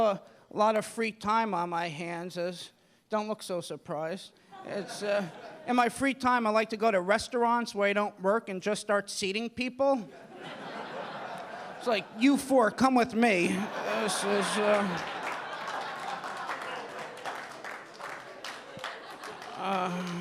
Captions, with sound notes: You know, I have a lot of free time on my hands. Don't look so surprised. In my free time, I like to go to restaurants where I don't work and just start seating people. (audience laughing) It's like you four, come with me. (audience laughing)